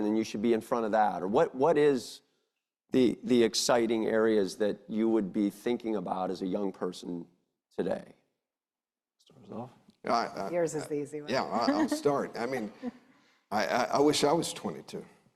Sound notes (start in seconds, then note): 11.3 chuckles